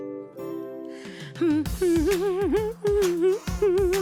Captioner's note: mercat humming